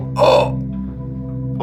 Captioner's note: gagging; screaming